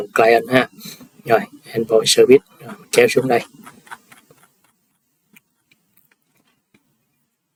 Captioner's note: sniffs